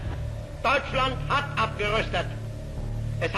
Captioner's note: Hitler speaking German